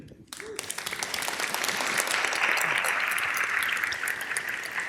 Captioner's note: audience applause